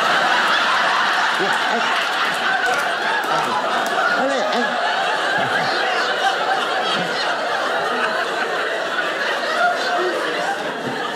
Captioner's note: audience laughing